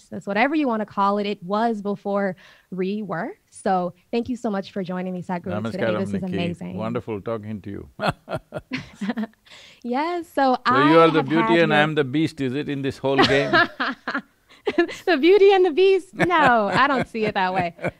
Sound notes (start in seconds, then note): 8.0 both laugh; 13.2 laughs; 16.1 Sadhguru laughs